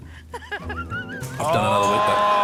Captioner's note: tense music; laughs; audience exclaims, laughs